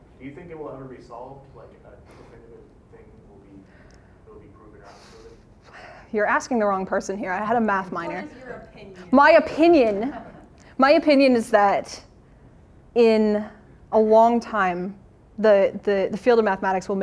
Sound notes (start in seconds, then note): 9.8 laughter